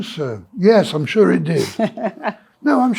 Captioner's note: laughs